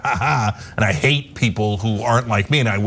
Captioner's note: laugh